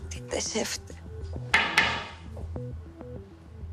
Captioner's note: knocking on the door